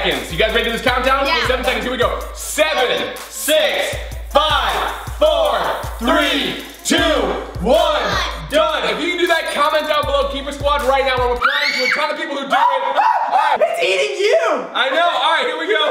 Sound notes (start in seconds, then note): 11.4 screams